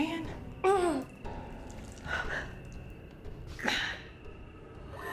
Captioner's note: Claire groans